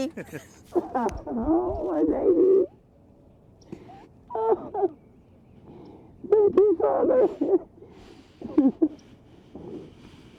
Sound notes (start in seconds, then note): 0.0 laughing; 4.5 crying